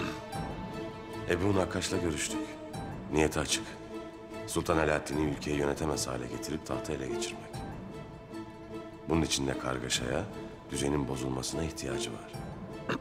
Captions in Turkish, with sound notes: (Ertuğrul iç ses) Ebu Nakkaş'la görüştük. Niyeti açık. Sultan Alaeddin'i ülkeyi yönetemez hale getirip, tahtı ele geçirmek. (Ertuğrul iç ses) Bunun için de kargaşaya, düzenin bozulmasına ihtiyacı var.